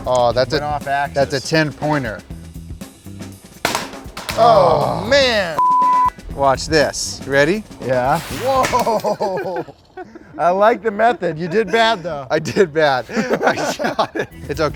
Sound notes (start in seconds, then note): 5.6 beep